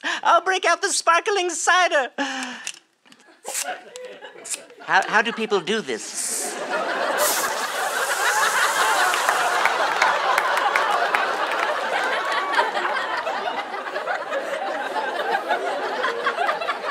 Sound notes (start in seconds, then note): 7.0 fizzing